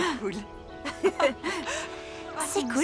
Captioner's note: chuckling